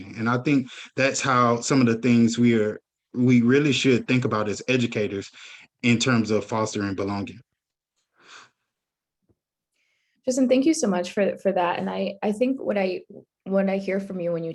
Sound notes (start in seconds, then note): none